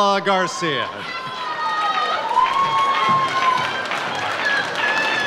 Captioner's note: audience cheers